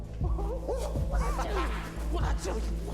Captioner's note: Rome laughing; Rome whooping